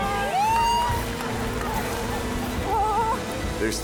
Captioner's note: cheering